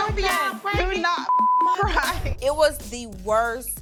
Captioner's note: beep